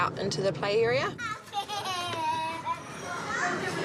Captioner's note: child giggles